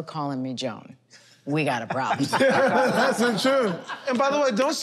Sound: laughter

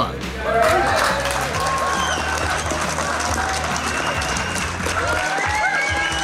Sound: crowd clapping and cheering

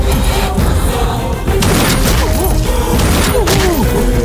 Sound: gunshot

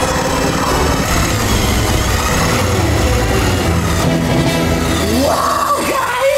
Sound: saw whirring; suspenseful music

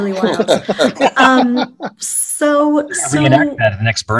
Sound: all laughing

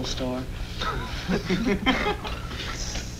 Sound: laughter

